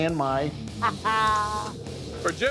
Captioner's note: laughs